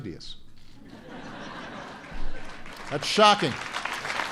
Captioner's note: laughter and applause